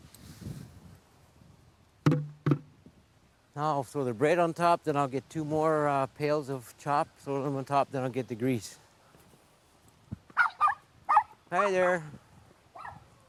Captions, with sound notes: Now I'll throw the bread on top, then I'll get two more pails of chop. Throw those on top, then I'll get the grease. [ Dog barking ] Hi there!